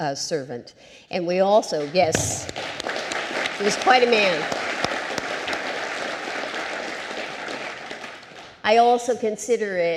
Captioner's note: applause